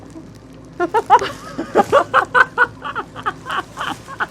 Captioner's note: laughing